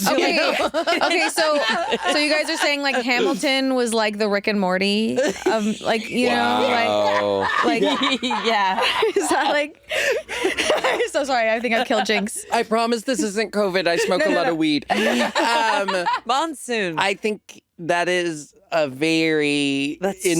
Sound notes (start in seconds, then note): 6.8 chuckling